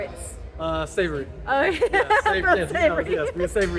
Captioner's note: laughing